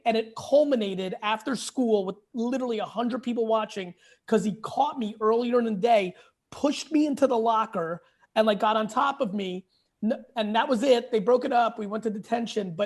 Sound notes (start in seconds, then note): none